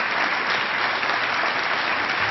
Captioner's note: applause